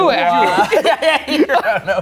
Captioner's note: laughs